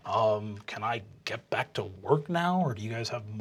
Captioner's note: deep voice